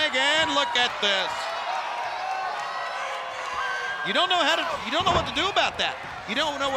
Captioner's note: applause